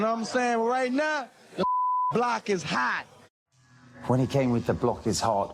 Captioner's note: beep